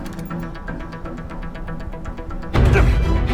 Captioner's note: gun reloading